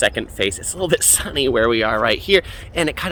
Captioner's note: giggles